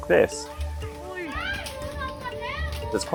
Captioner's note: customer shouting